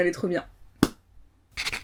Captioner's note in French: poc